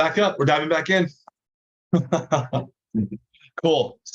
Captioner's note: laughing